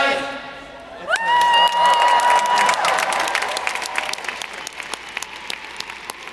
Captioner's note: audience cheering; audience applauding